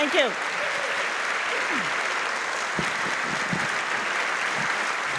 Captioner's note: applause